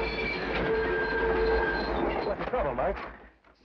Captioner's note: train wheels squeal